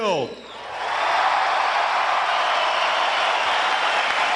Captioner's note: applause